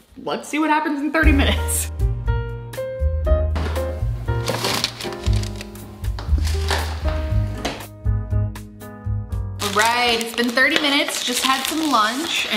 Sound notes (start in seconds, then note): 1.9 light jazz music; 3.7 refrigerator door clicks; 4.4 parchment paper rustles